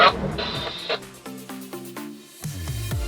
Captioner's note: static; upbeat music